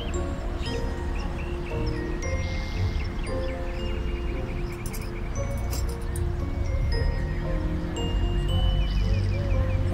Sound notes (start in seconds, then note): 3.1 mysterious music continues; 4.8 keys jingling